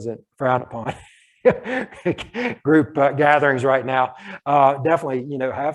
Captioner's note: laughs